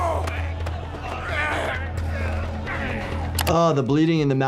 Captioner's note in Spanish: jugadores gruñendo